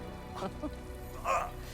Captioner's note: laugh